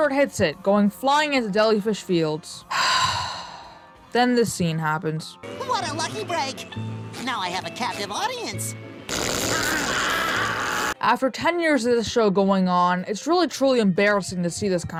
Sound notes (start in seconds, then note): 2.7 deep breath